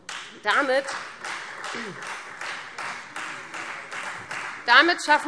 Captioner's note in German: Beifall Freie Demokraten